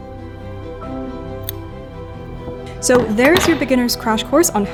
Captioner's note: snip snip